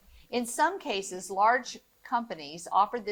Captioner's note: none